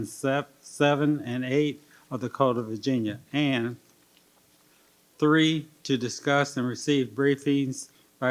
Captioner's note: none